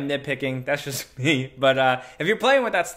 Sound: laughs

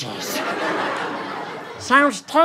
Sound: laughter

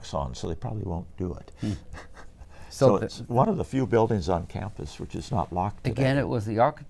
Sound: laughs

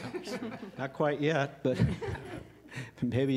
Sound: laughter

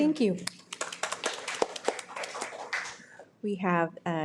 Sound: audience clapping

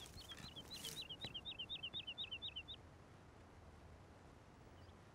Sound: birds tweet

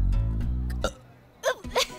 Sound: burps; both laughter

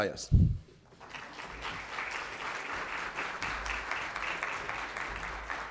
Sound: audience applauds

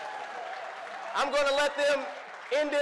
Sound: audience applause

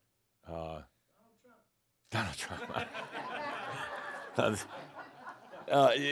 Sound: laughter

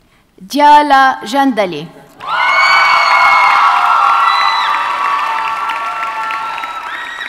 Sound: audience cheers and applauds

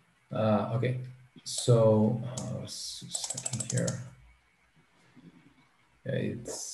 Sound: mouse clicking

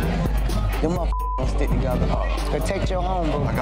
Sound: beep

